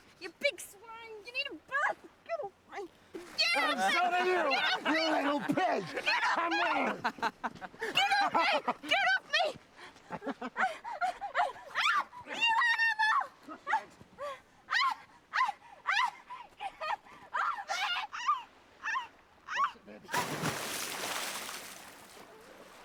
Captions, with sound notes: Get off me, you big swine. You need a bath. Get off me. Get off me, get off me! (men laugh) - I'm sodding you, you little pig. - Get off me! - Come on! (men laugh) - Get off me, get off me! (woman screams) You animal! (woman screams) (water splashes)